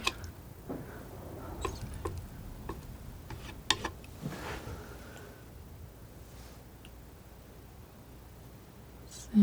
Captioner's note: tapping